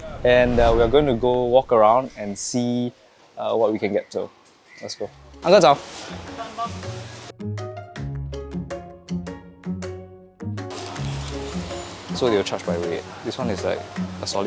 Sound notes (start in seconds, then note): 5.4 in Mandarin